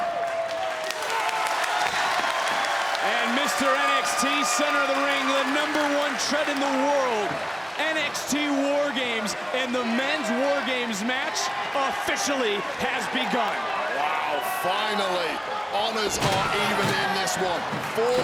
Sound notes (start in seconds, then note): 1.2 Ciampa and crowd clapping